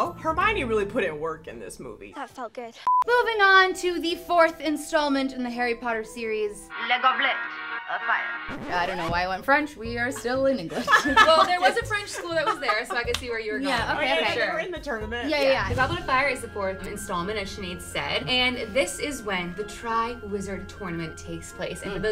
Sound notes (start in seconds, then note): 2.8 beep; 6.6 air whooshing; 6.6 speaks in foreign language; 10.8 laughs; 13.7 all ladies talking in unison